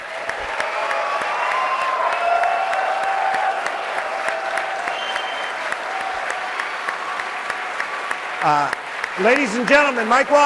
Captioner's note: applause